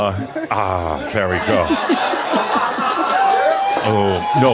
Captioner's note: brings a bottle of alcohol to much cheering and applause